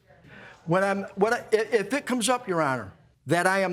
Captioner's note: stammering